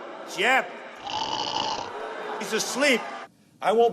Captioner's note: snoring